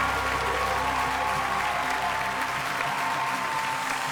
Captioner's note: cheers and applause